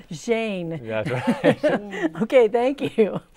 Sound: laughing

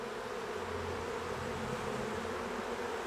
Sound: humming

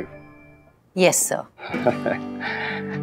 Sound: laughing

